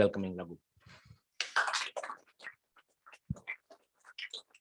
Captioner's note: applause